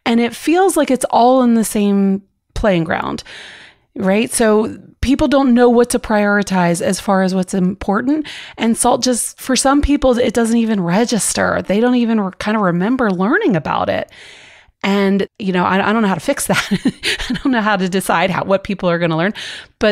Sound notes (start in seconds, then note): 16.4 laughs